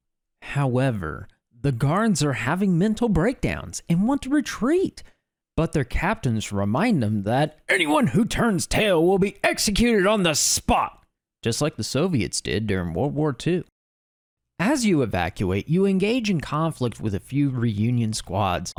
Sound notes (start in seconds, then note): 11.3 Normal Sandman voice